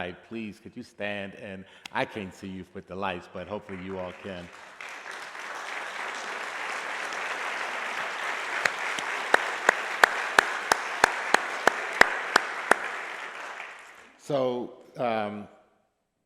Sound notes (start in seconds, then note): 3.6 applause